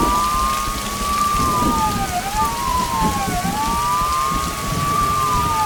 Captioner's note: thunder rolling